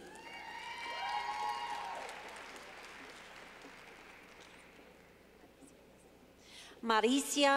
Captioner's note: clapping